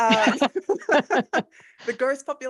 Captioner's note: laughing